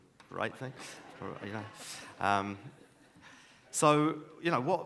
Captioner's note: audience laughs